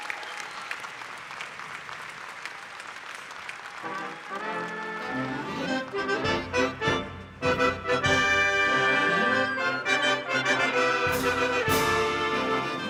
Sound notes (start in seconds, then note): 2.5 cheers and applause